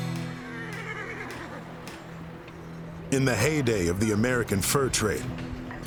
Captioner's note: horse neigh